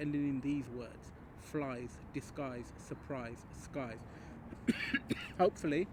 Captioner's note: coughs